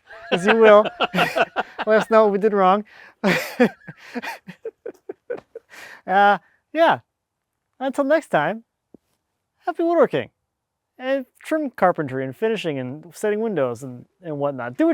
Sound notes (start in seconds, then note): 3.2 laughs